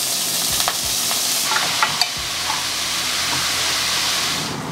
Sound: pan sizzling

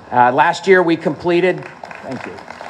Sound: applause

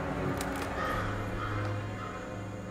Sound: crow calls

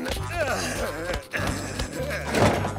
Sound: groaning

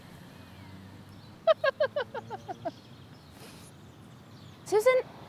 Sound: laughter

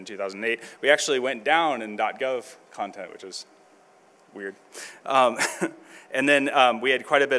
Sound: chuckles

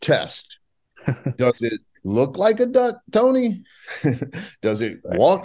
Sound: chuckles

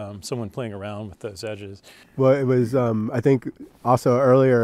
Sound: chuckles

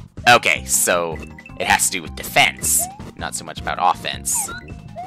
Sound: none

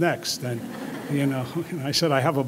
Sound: audience laughing

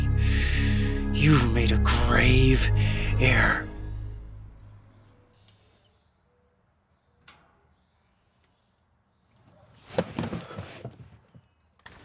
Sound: birds chirping

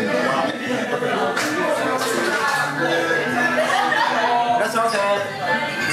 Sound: background chattering

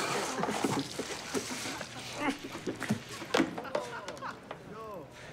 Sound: ketchup squirting; grunting; laughing

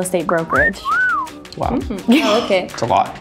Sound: whistles; chuckles

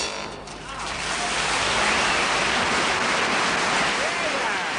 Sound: upbeat jazz music fades; audience applauds

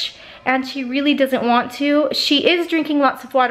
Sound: none

